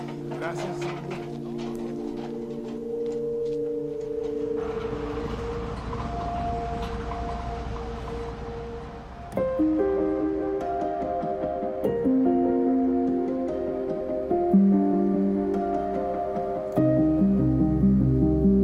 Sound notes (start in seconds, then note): 0.2 speaking foreign language; 5.3 truck rumbling; 10.1 hopeful music